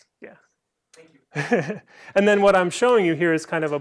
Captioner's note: laughter